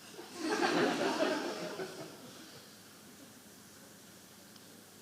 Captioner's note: audience laughing